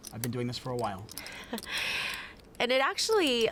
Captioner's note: laughs